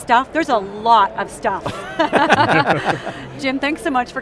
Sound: all laugh

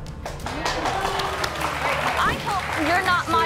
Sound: applause

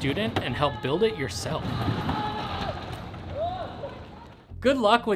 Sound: student screaming

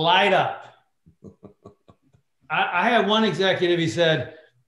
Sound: laughter

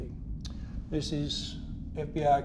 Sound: none

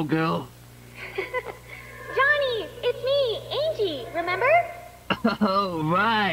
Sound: laughs

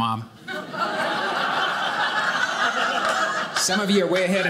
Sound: audience laughing

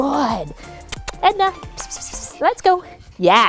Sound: kissing sounds

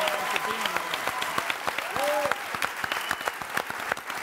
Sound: audience applauds

